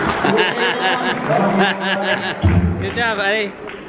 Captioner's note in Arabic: أبي يضحك